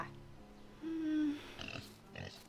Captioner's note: nervous noise